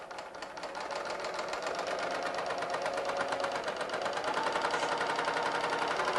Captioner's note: sewing machine whirring